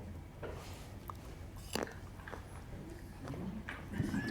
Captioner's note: cranberry crunching; audience laughing